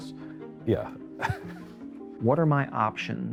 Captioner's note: chuckles